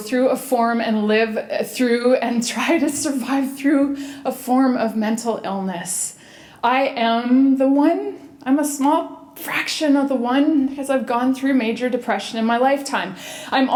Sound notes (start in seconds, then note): none